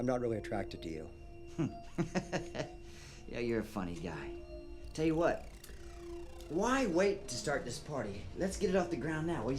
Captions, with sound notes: I'm not really attracted to you. (Clive chuckles) - Yeah, you're a funny guy. Tell you what, why wait to start this party? Let's get it off the ground now.